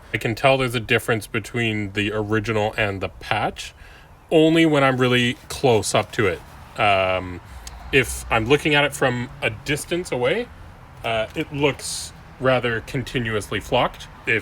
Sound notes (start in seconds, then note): none